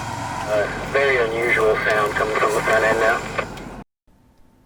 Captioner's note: very unusual sound coming from the front end